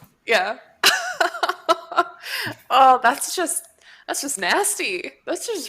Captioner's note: laughs